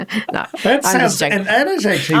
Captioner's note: laughing